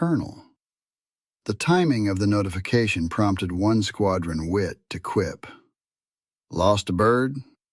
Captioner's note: southern US Accent